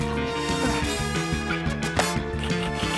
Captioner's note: grunts; keys clack